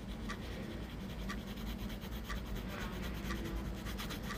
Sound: none

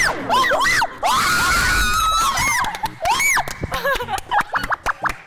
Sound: high pitched screaming with joy

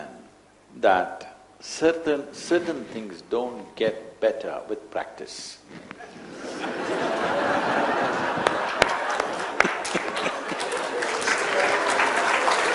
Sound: laughter/Applause

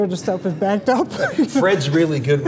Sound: laughing

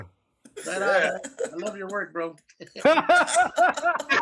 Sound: laughter

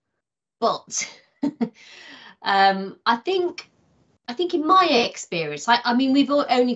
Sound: laughing

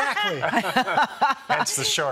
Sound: laughter

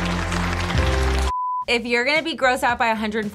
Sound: emotional music; blooper beep

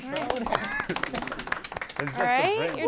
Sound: applause

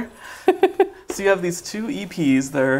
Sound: laughs

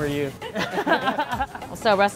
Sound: laughter

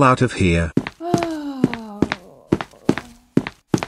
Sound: sighs

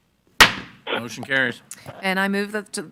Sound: gavel bangs

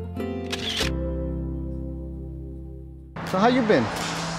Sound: relaxing music; photo click

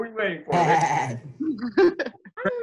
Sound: laughter

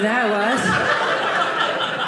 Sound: audience laughing

